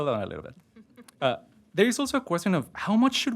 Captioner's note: laughter